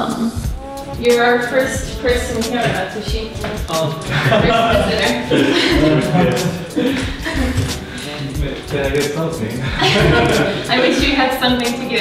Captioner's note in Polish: nieistotna rozmowa po angielsku